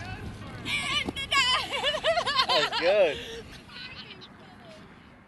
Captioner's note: laughter